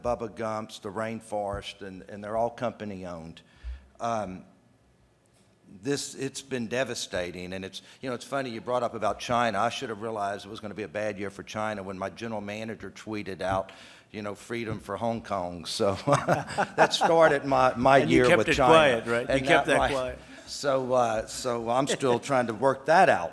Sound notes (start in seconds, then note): 15.9 laughter; 19.4 laughs